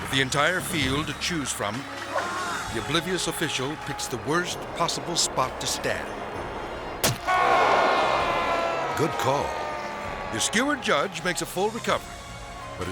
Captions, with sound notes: With the entire field to choose from, the oblivious official picks the worst possible spot to stand. (judge yelling) (audience exclaiming) Good call. The skewered judge makes a full recovery,